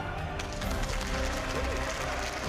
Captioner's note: applause